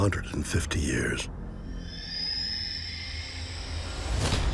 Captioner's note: creature screeches